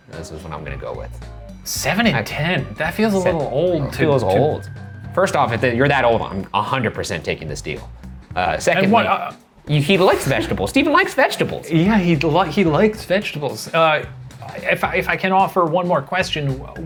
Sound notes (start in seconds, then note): 9.5 stammering